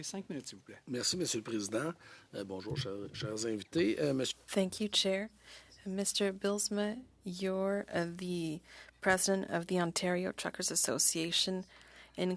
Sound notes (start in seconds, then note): 3.9 speaking French